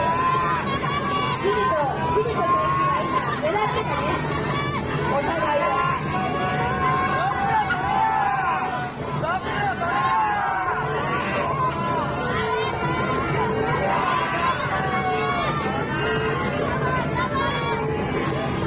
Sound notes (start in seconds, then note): 8.8 ←Angry shouts from the audience